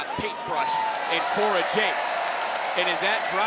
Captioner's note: crowd cheers